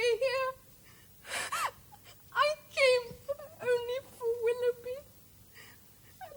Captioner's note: sobs